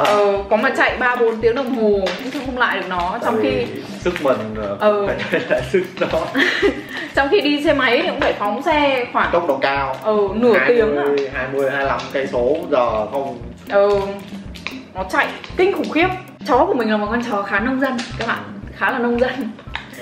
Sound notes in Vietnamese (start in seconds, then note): 5.2 cười